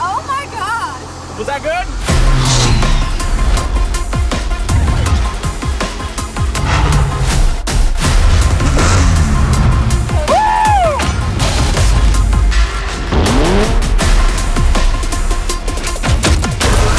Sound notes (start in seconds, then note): 2.0 engine roaring; 2.0 heart-pounding music; 10.2 man yelling